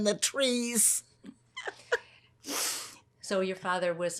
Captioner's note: laughing